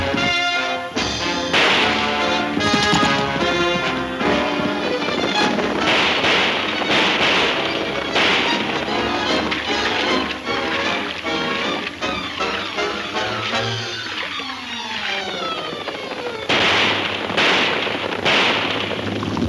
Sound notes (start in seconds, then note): 0.3 guns firing; 4.6 guns firing; 8.7 suspenseful music; 15.3 guns firing